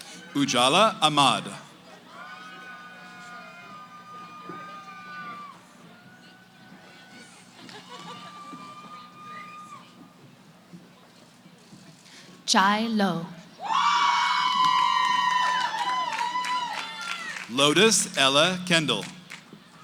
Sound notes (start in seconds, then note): 1.8 cheering; 7.6 background conversations; 13.6 cheering